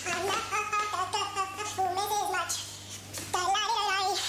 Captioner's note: humming